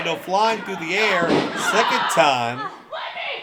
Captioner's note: wrestlers grunting